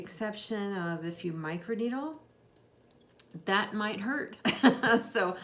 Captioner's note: laughs